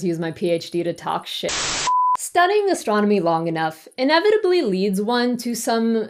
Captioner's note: error sound